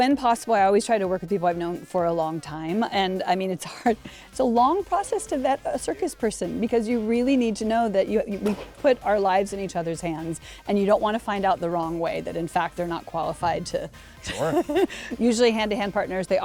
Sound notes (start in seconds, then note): 14.2 laughs